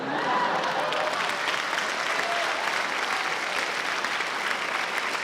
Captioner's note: applause, cheering